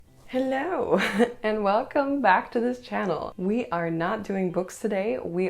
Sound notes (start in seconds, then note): 1.0 laughter